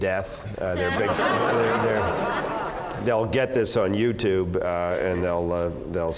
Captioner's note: laugh